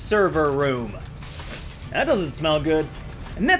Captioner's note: sniffs